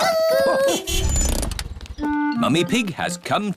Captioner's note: horn honks